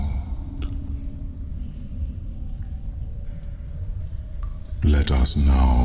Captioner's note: cave noises